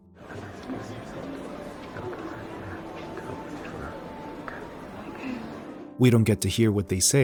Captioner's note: whispering